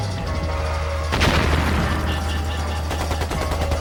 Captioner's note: bomb exploding; rapid gunfire banging